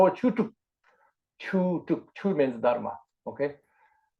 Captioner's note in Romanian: în tibetană